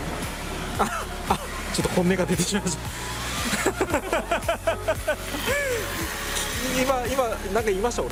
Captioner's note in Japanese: 笑い